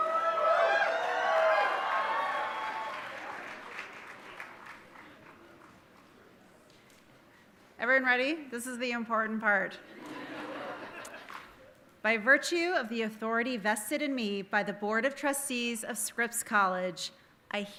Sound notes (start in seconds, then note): 0.0 audience cheering and applauding; 9.9 audience laughing